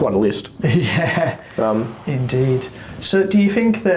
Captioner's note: laughs